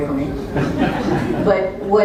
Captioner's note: laugh